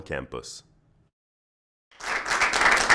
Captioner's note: applause